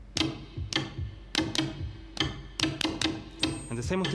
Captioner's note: toy beating